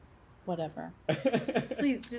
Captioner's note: Jack laughs